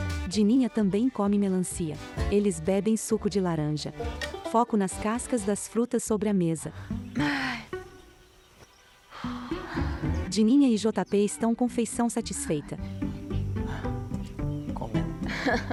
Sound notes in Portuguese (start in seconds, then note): 0.1 Pássaros; 6.8 Suspiros; 9.1 Suspiros